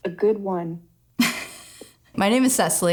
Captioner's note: laughs